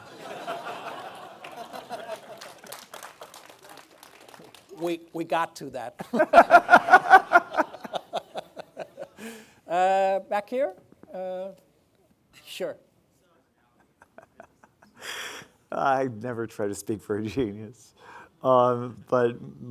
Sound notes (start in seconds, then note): 0.0 audience laughing; 6.1 laughing